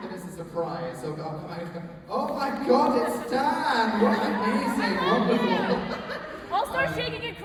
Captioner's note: laughs